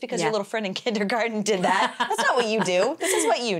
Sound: laughs

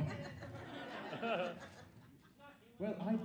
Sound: audience laughs

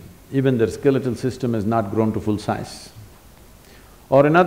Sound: none

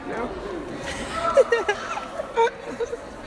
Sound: laughter

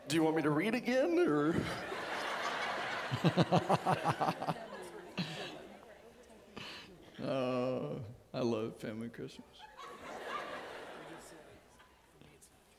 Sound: audience laughing

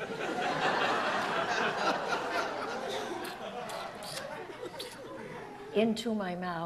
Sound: audience laughs; lips slurping

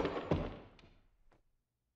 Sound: gunshot; thud

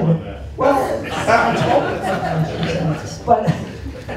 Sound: laughter

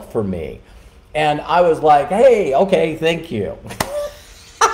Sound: laughing

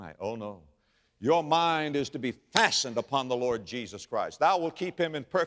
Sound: slap

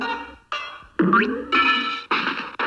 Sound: TV playing

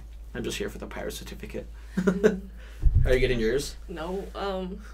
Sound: laughs

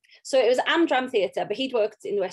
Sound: none

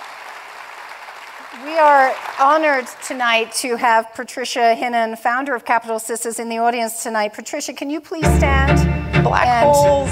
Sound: applause

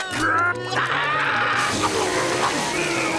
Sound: screaming

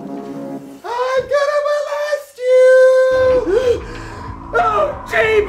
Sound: gasps

